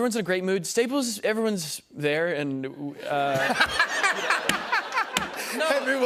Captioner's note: laughter